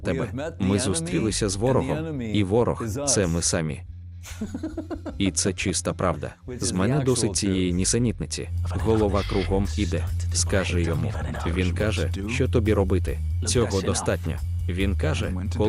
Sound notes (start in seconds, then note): 4.3 laughing